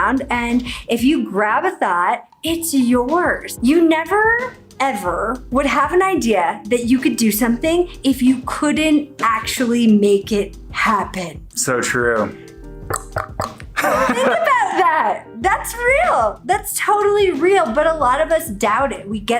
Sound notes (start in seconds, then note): 12.7 knocking; 13.7 laughs